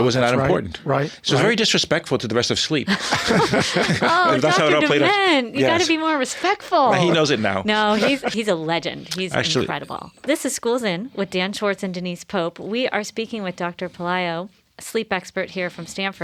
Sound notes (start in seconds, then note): 2.9 laughing